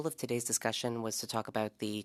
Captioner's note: speaking French